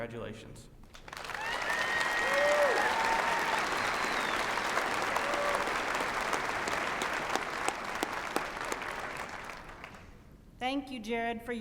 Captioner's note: applause